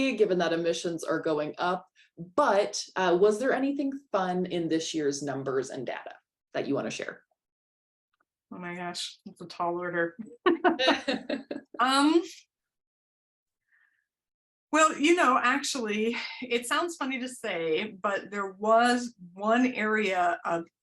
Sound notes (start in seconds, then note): 10.3 laughter